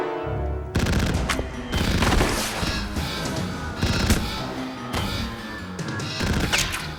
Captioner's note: gun fire